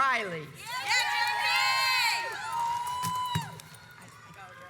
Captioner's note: audience cheers